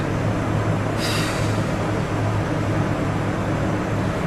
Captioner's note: sighs